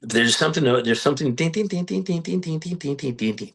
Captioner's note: humming